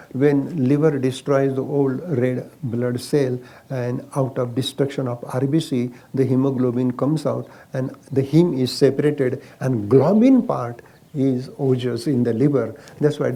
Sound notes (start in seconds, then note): none